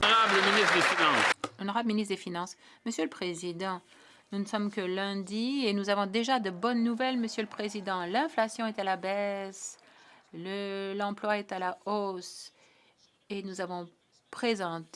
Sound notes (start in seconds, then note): 4.9 some Applause; 5.3 speaking French